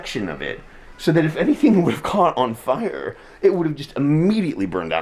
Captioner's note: laughing